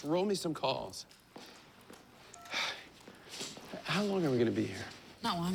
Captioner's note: sighs